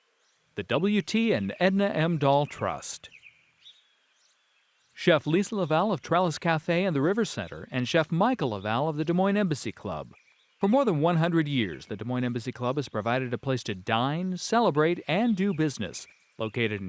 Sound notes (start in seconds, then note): 3.2 birds chirping